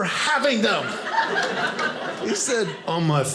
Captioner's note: audience laughing